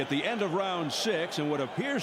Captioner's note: applause